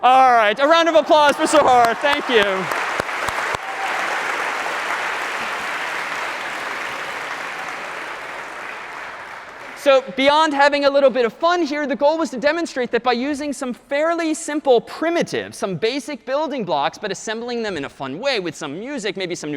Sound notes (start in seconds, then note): 3.3 applause